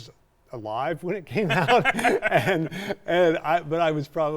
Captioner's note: both laughing